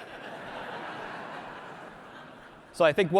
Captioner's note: audience laughs